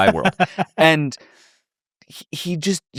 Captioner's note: laughs